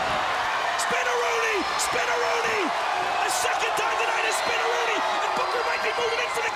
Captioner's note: crowd cheering